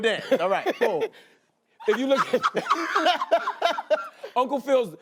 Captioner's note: laughing